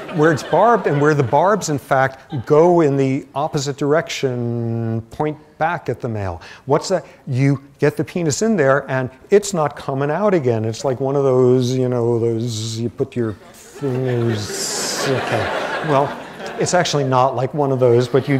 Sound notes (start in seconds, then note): 13.3 laughter